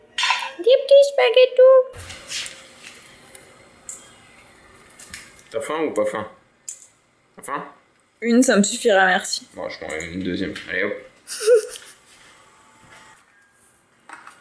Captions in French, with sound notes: Des petits spaghetto T'as faim, ou pas faim ? T'as faim ? Une ca me suffira merci. Bon j'e t'en mets un deuxieme, allez hop ! [gloussements]